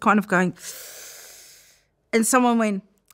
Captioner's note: inhales